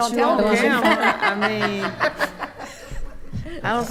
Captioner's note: attendees laughing